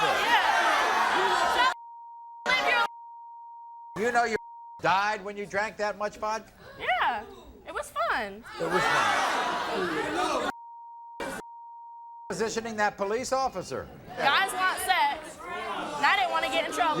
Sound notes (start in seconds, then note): 0.0 audience shouts; 4.3 beep; 8.4 audience shouts; 10.5 beep